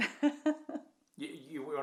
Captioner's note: laughs